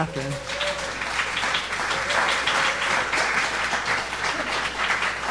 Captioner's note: audience applauding